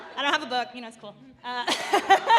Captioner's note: laughing